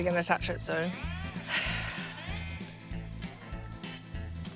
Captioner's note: sighs